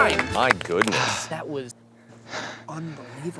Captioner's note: heavily breathing